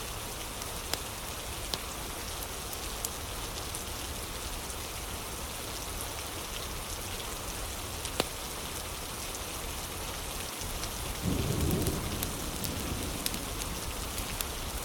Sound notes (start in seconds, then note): 0.0 fire crackling; 10.4 fire crackling